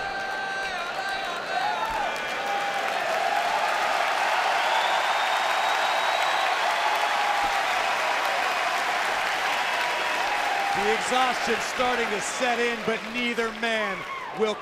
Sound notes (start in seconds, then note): 0.0 fans chanting; 1.6 cheers and applause